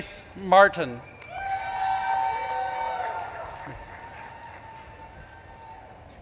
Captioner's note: audience claps and cheers